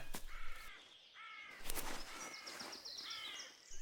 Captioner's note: bird squawking